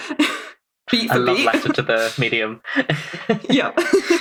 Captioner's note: laughs